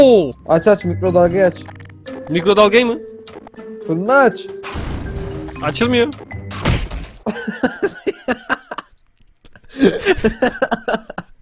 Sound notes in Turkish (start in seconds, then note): 3.8 Bağırarak